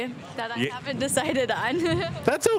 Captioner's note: laughing